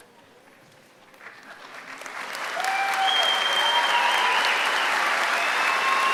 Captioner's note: applause